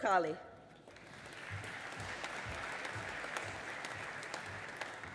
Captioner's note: audience applauding